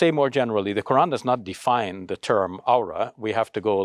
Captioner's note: speaks Arabic